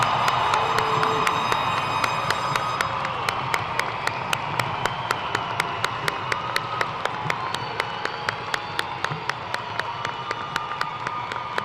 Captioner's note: cheers and applause